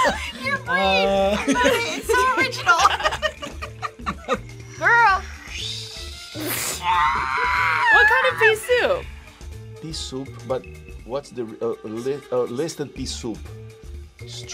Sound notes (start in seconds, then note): 0.0 both laugh; 3.2 both laugh; 4.9 screams